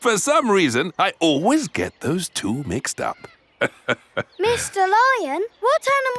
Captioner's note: laughs